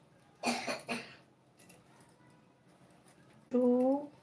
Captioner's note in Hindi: गला साफ़ करने की आवाज़